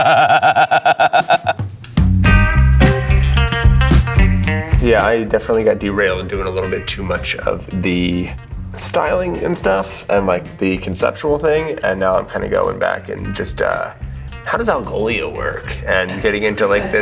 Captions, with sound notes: (laughing) (upbeat music) Yeah, I definitely got derailed doing a little bit too much of the styling and stuff and like the conceptual thing. And I'm like, I'm like, I'm like, I'm like, this is the conceptual thing. And now I'm kind of going back and just, how does Algolia work? And getting into like